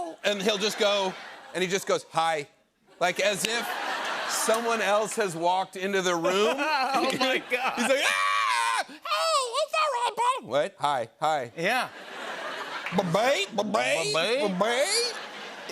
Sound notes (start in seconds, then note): 6.3 laughing; 11.9 laughter